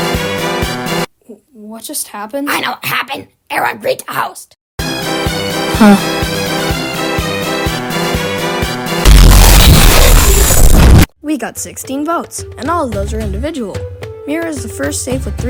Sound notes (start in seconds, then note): 9.0 Glitch